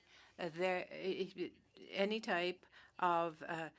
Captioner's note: speaking French